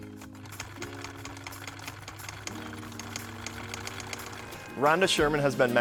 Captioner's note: sewing machine whirring